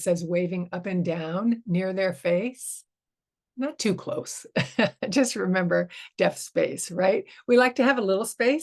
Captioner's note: chuckles